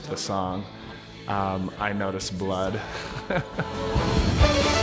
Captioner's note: laugh